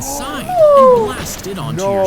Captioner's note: both gasping